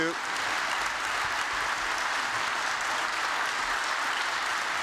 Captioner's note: applause